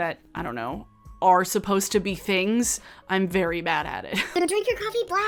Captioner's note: chuckles